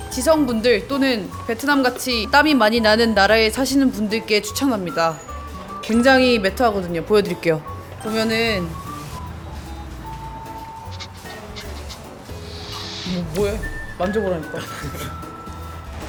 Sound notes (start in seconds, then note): 11.1 sniff sniff